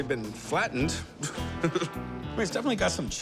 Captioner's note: chuckles